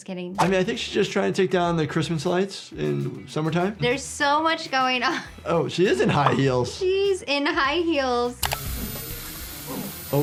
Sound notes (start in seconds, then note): 5.9 laughs; 8.4 chainsaw whirring